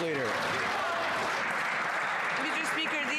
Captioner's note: some Applause